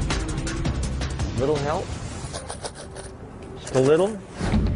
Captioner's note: coins rattle in cup